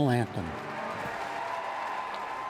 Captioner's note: cheering and applause